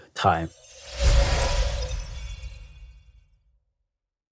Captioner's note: time travel whoosh